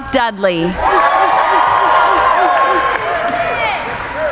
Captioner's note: cheering